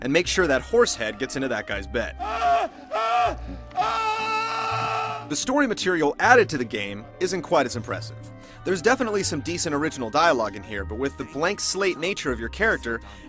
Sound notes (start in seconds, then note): 2.1 Jack Woltz Screaming